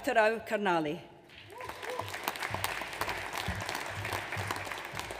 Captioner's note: audience applauds